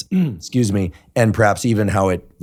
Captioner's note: clears throat